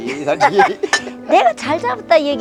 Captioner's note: both laughing